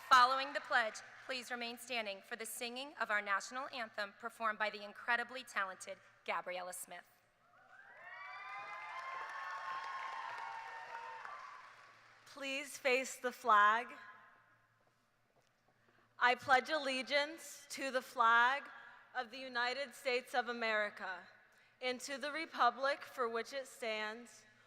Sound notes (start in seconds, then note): 11.4 cheers